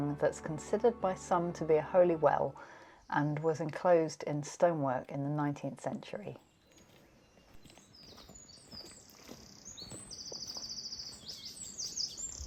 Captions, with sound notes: that's considered by some to be a holy well, and was enclosed in stonework in the 19th century." [Birdsong]